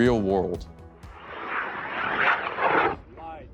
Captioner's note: rocket launch; spectators speaking indistinctly and cheering